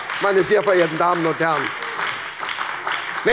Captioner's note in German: Beifall bei der SPD und der LINKEN